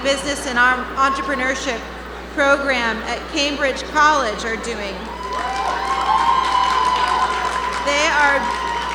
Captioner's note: cheers and Applause